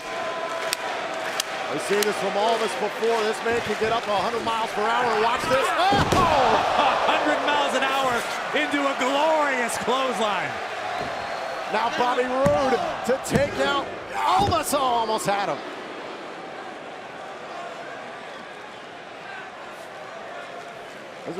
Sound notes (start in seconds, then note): 0.0 crowd cheering; 7.1 crowd cheering